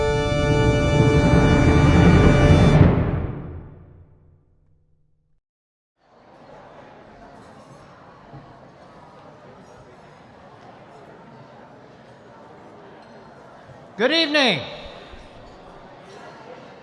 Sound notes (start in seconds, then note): 7.5 audience murmuring